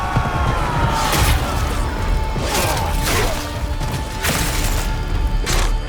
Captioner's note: battle cries; blade slicing